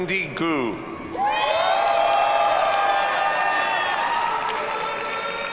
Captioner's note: audience cheers and applauds